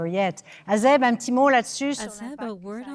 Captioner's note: speaking French